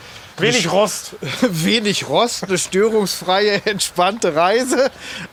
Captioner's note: lacht